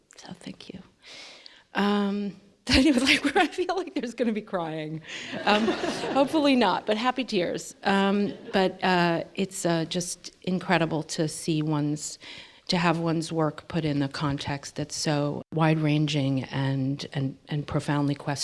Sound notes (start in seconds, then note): 5.2 laughter